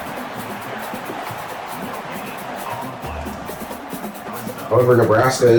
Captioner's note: crowd Noises